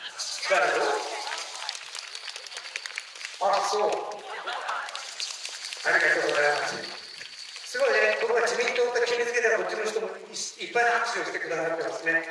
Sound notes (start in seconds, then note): 4.6 applause